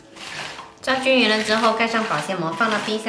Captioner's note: Mandarin